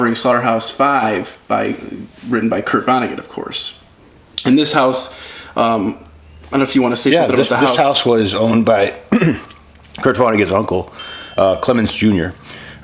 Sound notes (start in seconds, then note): 9.0 coughs